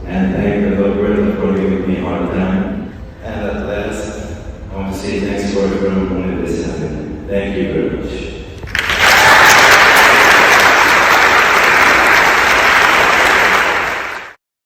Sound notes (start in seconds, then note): 8.6 audience loudly applauding